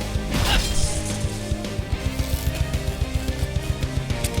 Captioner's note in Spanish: Corte de hoja; Chispoteo eléctrico